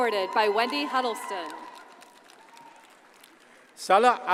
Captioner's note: audience cheers and applauds